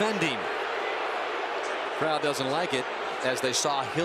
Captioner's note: booing